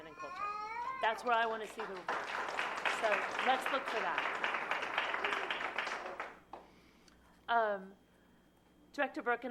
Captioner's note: applause